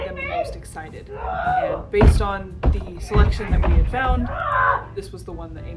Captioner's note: thumping and rage noises in the background